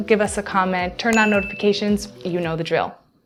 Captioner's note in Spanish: toques de campana